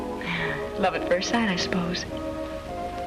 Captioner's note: chuckles